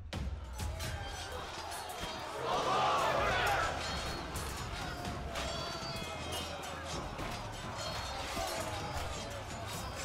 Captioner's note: horse, sword, and takbir sounds